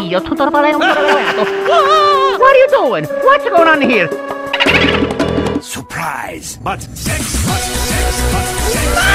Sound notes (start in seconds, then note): 0.8 evil laughter!